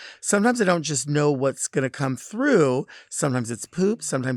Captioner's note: none